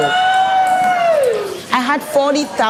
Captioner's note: cheers